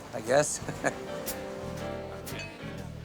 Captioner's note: chuckles